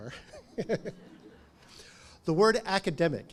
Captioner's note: chuckles